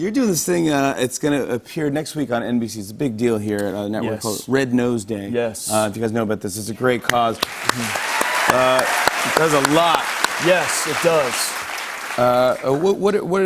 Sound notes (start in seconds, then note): 7.4 cheers and applause